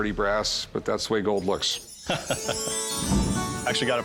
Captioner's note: laughs